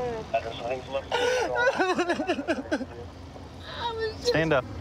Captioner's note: crying